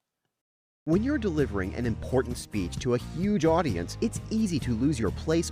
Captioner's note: voice-over